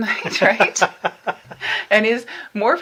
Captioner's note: both laughing